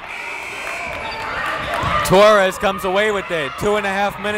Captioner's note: buzzer blaring